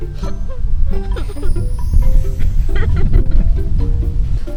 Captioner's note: laughing